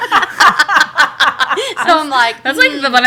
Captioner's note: laughter